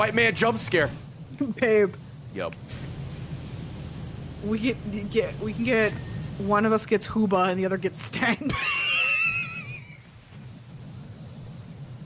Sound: laughs

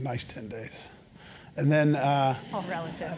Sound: laugh

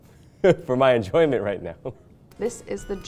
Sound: laughs

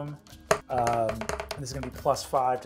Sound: dice rolling

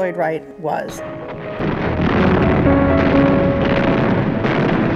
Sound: explosions

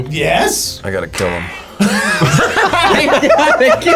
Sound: group laughs

